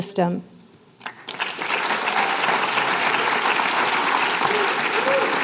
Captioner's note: applause